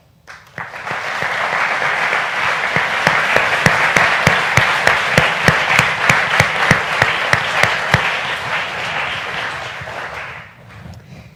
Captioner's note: applause